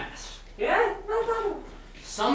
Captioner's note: speaking grammelot